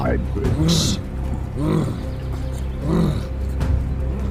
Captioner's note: man grumbling